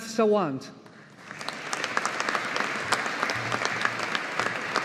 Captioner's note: audience applauding